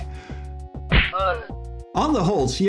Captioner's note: punch